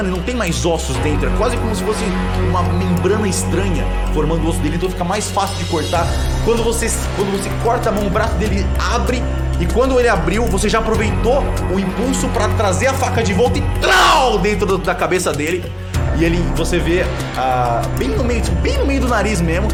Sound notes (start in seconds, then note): 13.8 stabbing sound effect